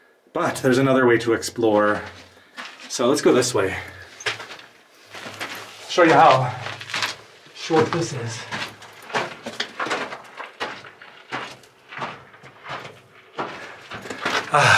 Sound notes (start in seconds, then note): 9.3 footsteps